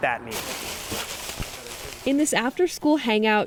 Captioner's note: paper crackling